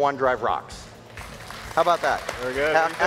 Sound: audience applauds

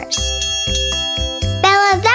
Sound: bell dinging

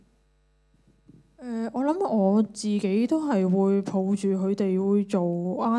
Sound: Cantonese

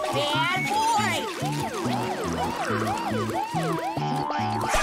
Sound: siren blaring

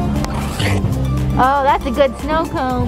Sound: tongue slurping

